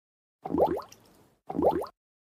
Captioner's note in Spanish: FX - Water Bubble